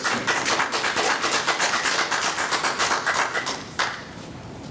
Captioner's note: audience clapping